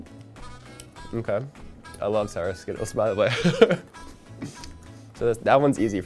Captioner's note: lips smacking; laughing